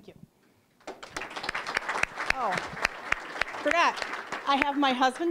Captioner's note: applause